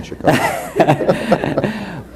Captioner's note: both laugh